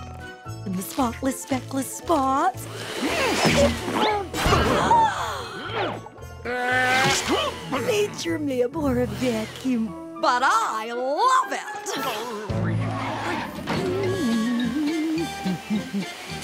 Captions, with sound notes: The spotless, speckless spots. [gasping] Major mail order vacuum, but I love it! [humming]